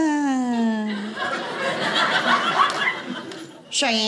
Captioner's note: audience laughing